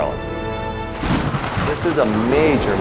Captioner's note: thunder crashing